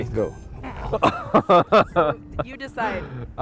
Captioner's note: laughs